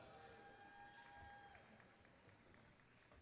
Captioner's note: applause